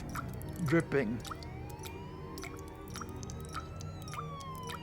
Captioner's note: drip drip, drip, drip, dripping; police siren; somber Music